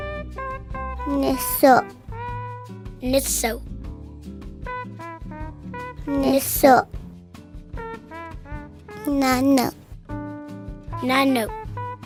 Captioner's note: kids speaking Cheyenne numbers